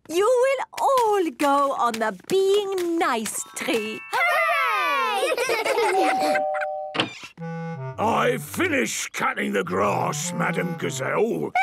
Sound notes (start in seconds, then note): 5.7 doorbell rings